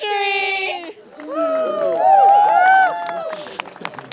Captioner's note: cheering